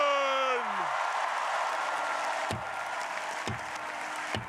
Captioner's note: crowd applauding